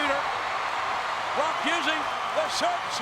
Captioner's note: crowd cheering